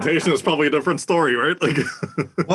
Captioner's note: laugh